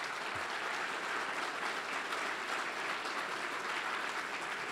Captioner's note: audience applauds